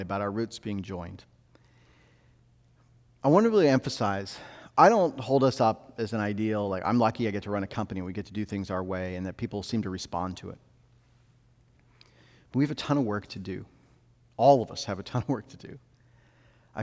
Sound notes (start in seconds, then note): none